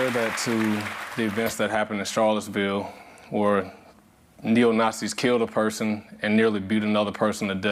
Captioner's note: applause